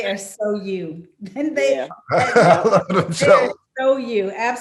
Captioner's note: Mike laughing; Kim giggling